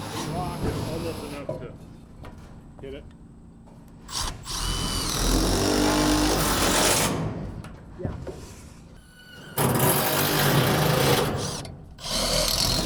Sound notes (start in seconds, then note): 4.1 drill rattling